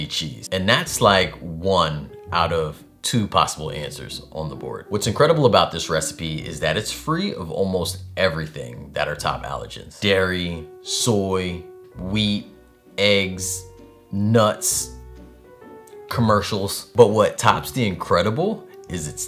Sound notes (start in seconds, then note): none